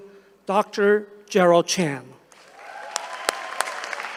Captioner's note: applause